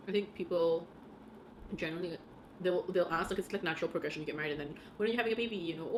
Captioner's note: none